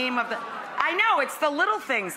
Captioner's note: audience agrees